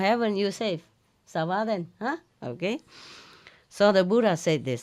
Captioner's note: French